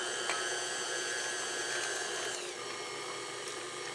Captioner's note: mixer whirs